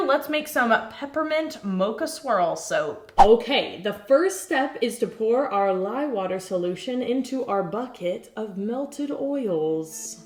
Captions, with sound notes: let's make some Peppermint Mocha Swirl soap. (air whooshing) Okay, the first step is to pour our lye water solution into our bucket of melted oils.